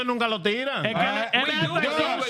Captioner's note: speaking In Foreign Language